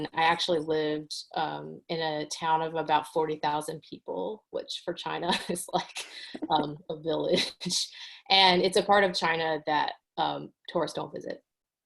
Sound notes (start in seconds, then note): 6.2 chuckles